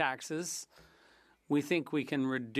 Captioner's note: speaking French